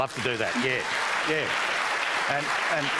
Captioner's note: applause